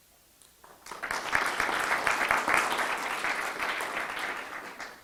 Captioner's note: audience applause